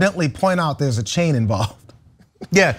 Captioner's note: laugh